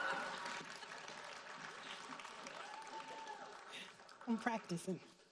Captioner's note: audience applauding